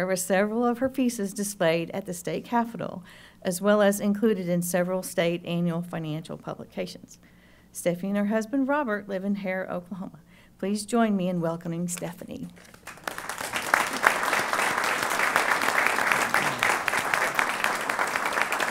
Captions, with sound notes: with several of her pieces displayed at the state capitol, as well as included in several state annual financial publications. Stephanie and her husband, Robert, live in Harrah, Oklahoma. Please, join me in welcoming Stephanie. [APPLAUSE]